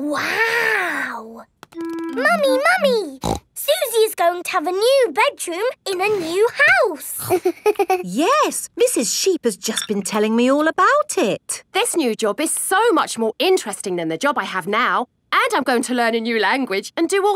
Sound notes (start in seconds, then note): 3.2 snorts